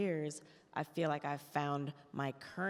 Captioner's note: none